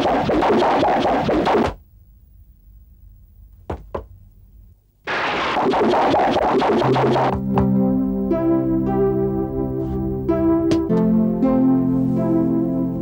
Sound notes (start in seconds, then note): none